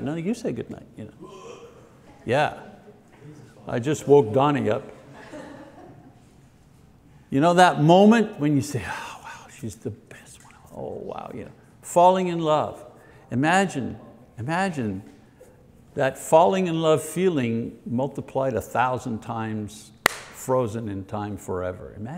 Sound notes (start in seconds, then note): 1.2 man groans; 5.2 woman laughs